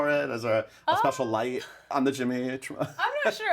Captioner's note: laughs